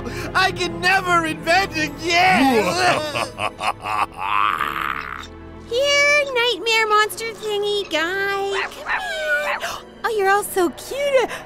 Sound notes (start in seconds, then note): 2.3 maniacal laughter; 8.5 meowing/yapping